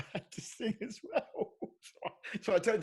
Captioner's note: chuckling